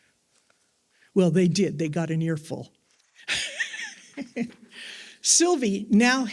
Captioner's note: laughs